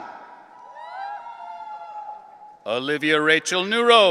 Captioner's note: audience cheering